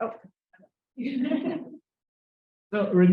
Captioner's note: audience laughs